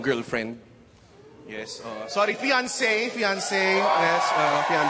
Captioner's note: audience cheers